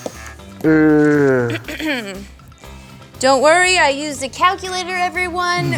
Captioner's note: clears throat